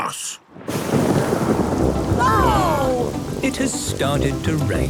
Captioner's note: thunder